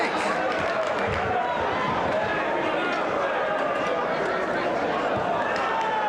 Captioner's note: spectators cheering and applauding